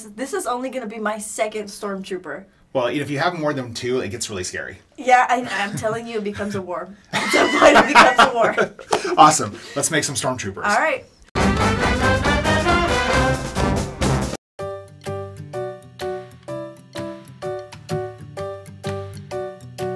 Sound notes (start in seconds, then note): 7.1 laughs; 14.8 happy music